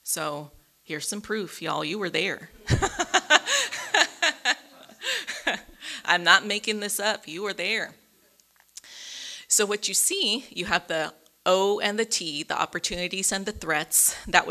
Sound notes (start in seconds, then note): 2.6 audience laughing